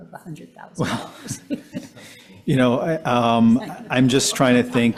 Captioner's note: chuckling